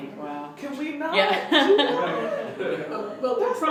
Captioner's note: laughter